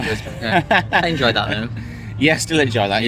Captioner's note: laughing